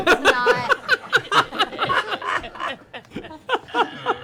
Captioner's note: laughter